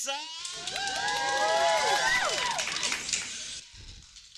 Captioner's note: cheers